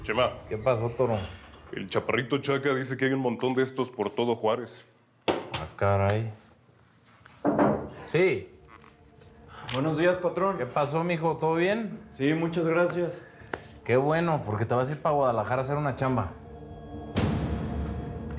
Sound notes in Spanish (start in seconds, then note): 7.4 toques en la puerta